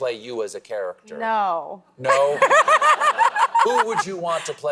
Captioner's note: laughs